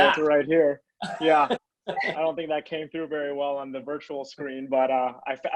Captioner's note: laugh